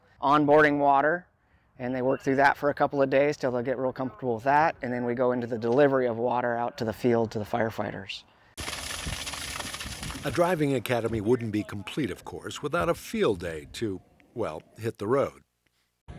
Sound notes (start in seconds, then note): 8.6 sound of water splashing